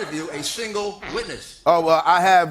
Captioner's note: farts